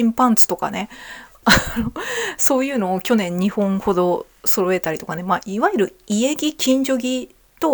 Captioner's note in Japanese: 笑い